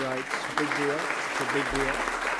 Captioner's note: applause